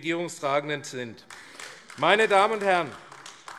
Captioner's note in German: Beifall AfD